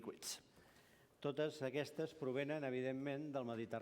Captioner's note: non-english speech